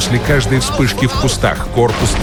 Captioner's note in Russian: Говорят по-немецки